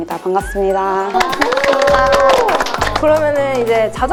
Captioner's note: clapping